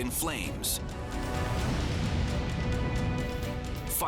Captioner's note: flames roaring